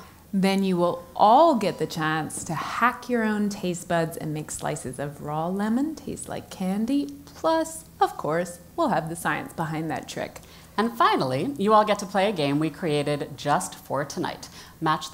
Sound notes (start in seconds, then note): none